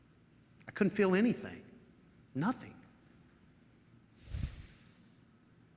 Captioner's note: sighs